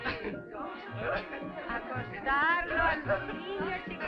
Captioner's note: Pepe laughing